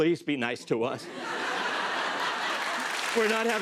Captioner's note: laughter and applause